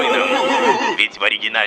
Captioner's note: manly battle cry